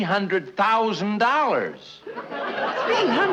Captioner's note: audience laughing